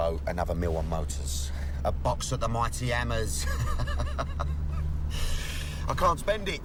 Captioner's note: laughs